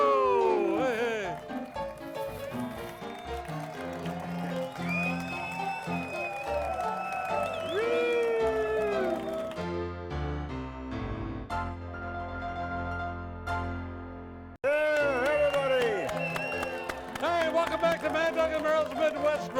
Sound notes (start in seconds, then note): 1.0 jaunty music; 2.3 audience applauds and cheers